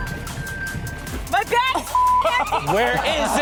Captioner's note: beep